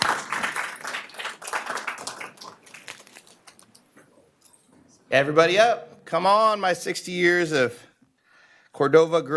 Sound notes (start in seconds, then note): 3.0 applause